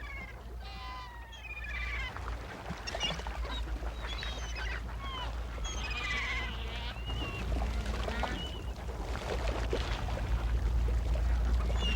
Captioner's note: seagulls